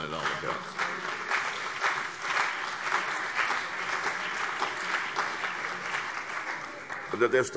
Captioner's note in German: Beifall CDU und BÜNDNIS 90/DIE GRÜNEN